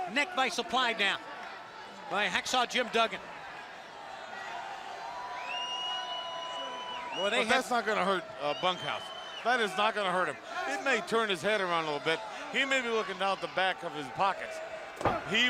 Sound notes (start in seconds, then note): 0.0 crowd chatter; 3.2 crowd cheering